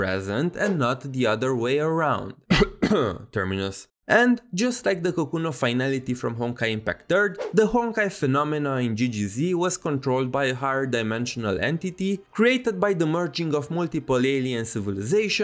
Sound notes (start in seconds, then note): 2.4 cough